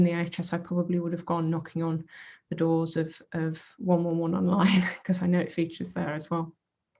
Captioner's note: chuckles